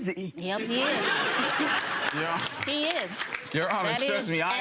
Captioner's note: audience laughing